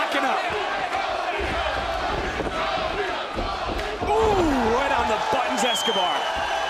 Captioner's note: crowd chants "tony"